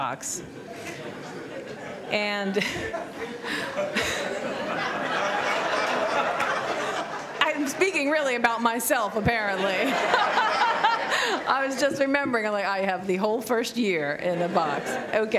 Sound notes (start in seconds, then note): 0.1 laughter; 2.5 laughs; 9.4 laughter